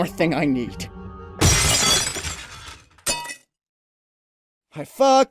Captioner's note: shattering glass and a thud